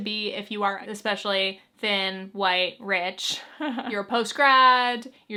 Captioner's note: chuckles